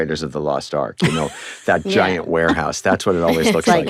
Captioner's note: laughs